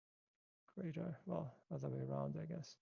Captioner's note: speaks faintly